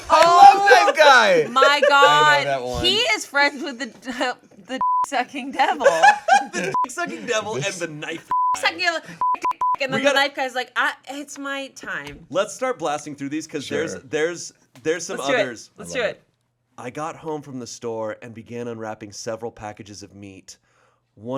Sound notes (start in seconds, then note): 4.8 beep; 5.5 laughs; 9.2 beep; 9.2 beeps